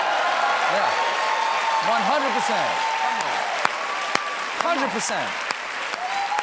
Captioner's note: cheers and applause